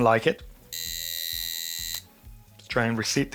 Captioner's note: buzzing